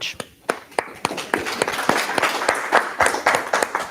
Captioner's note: applause